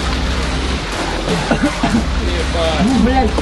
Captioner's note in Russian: Кашляет